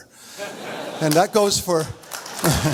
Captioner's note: audience laughs; audience laughs and applauds